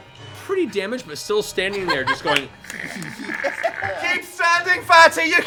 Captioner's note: snarling